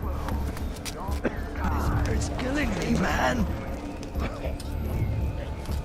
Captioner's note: coughing citizen complains that the toxic air is 'killing him'